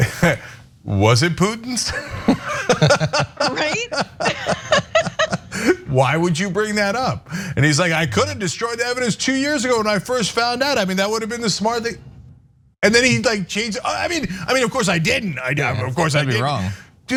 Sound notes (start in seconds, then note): 1.8 laugh